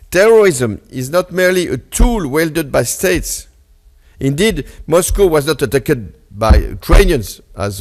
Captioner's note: none